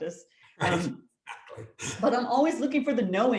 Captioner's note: laughs